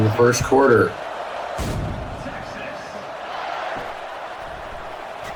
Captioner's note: crowd cheering